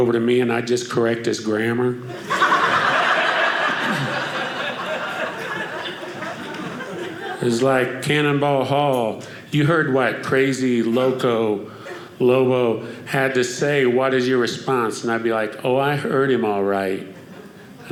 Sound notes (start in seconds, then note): 2.1 audience laughing